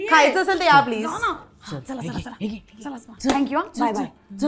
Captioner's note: whispers